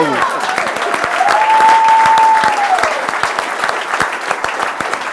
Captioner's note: applause